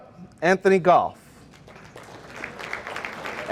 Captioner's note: audience applauding